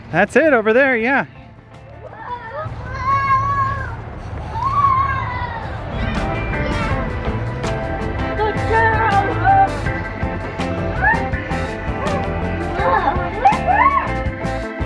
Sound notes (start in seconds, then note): 2.4 kids yelling; 6.0 energetic music